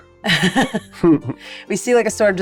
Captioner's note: laughing